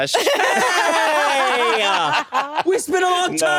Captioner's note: everyone laughs